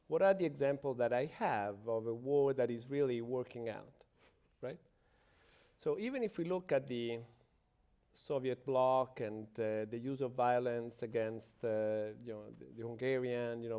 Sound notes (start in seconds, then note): none